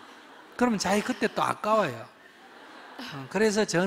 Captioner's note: audience Laughter